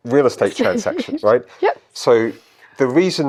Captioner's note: chuckles